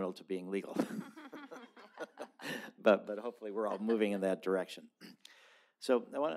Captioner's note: laughter